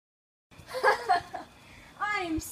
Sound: evil laughter

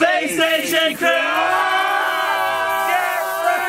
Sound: all yell

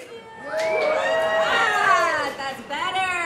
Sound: cheering

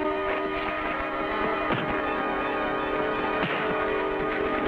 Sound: slapping effect

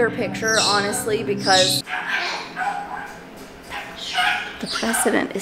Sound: birds squawking

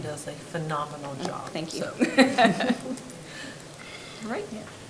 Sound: both laugh

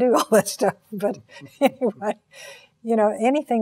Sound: laughs

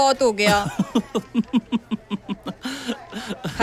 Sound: laughs

